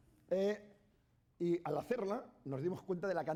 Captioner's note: speaking spanish